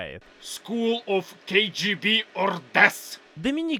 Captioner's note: russian accent parody intensifies